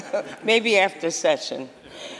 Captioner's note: laughter